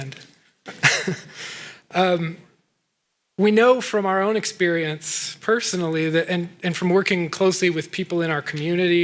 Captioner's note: chuckling